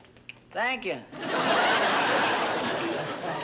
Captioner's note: laughter